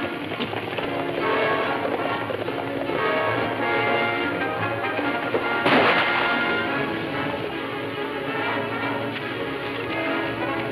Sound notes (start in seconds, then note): 0.1 dramatic music playing; 5.6 gun firing; 6.9 dramatic music playing